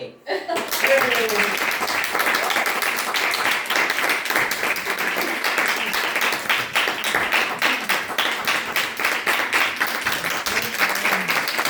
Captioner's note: applause